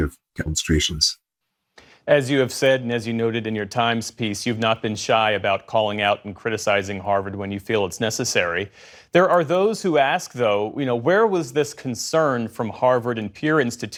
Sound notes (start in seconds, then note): none